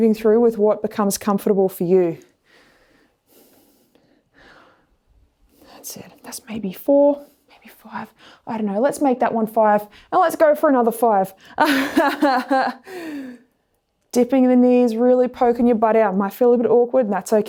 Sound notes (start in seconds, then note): 11.6 laughs